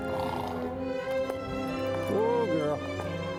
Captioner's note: horse snorting